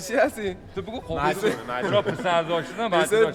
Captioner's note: talking in Farsi